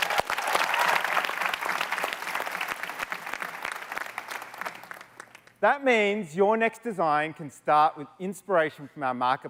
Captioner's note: applause